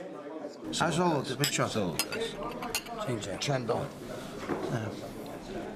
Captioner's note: speaking foreign language